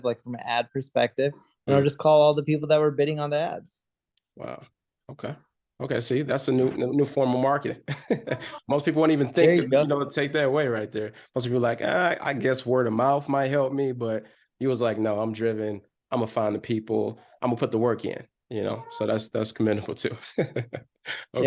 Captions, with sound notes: like, from an ad perspective, And, I would just call all the people that were bidding on the ads. - Wow, okay. Okay. See that's a new, new form of marketing. (laughs) Most people wouldn't even think- - There you go. - you know, to take that away, right there. Most people are like, ah, "I guess word-of-mouth might help me. But, he was like, "No, I'm driven. I'm going to find the people. I'm going to put the work in." You know? So, that's, that's commendable too. (chuckles)